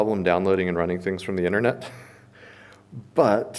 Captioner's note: chuckles